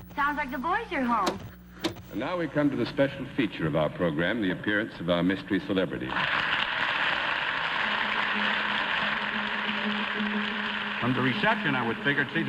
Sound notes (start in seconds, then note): 6.1 applause